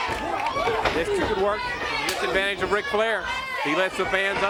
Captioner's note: crowd chatter